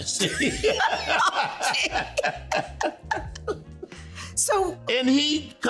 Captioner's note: laughing